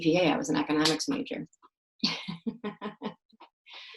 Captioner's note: laughs